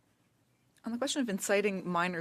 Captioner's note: speaking French